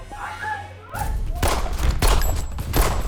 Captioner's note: gunshot